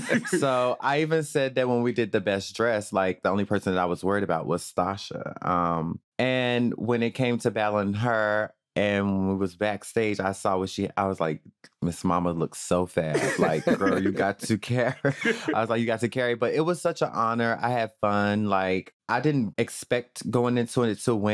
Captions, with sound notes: So I even said that when we did the best dressed, like, the only person that I was worried about was Stasha. And when it came to battling her and we was backstage, I saw what she--I was like, Miss Mama looks so fab, like "Girl, you got to car--" (LAUGHS) I was like, "You got to carry." But it was such an honor. I had fun, like, I didn't expect going into it to win.